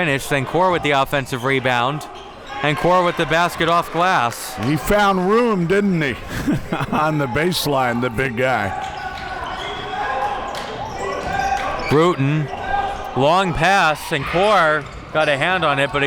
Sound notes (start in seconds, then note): 5.1 laughs